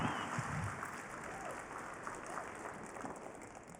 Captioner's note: cheering, applause